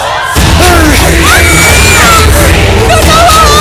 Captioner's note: Khushi screams